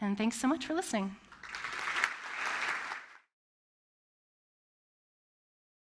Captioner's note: applause